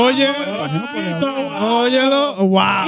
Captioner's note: speaking In Foreign Language